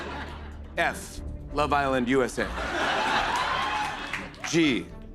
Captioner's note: laughter